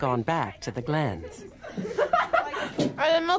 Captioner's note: girls laughing